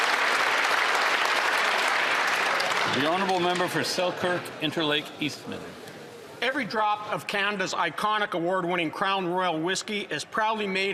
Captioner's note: applause